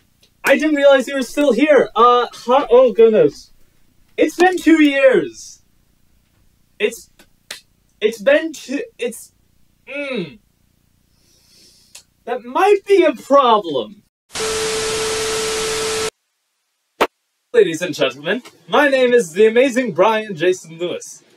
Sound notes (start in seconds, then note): 11.1 sniff; 17.0 clap